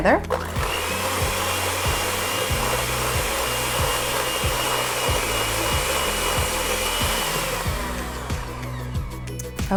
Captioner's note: blender motor whirling sound